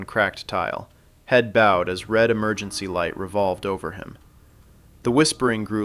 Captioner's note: sound: siren motor turning slowly